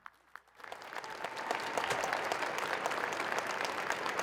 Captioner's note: crowd applauding